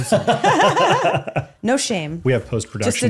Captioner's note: all laughing